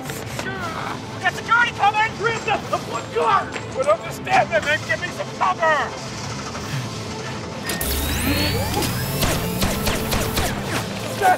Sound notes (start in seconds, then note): 7.6 electronic charge-up; 8.8 gun shooting